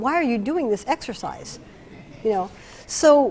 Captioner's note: laughter